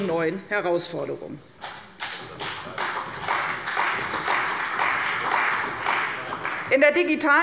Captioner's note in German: Beifall bei der CDU und dem BÜNDNIS 90/DIE GRÜNEN